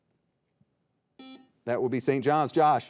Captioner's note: buzzer beeping